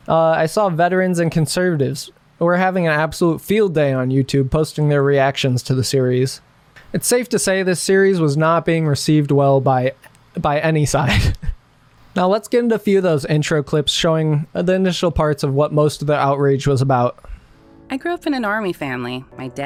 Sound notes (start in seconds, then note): 11.0 laughs; 17.5 soft music